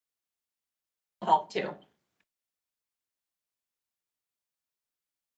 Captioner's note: indistinct chatter